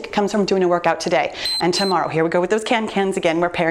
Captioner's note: timer beeps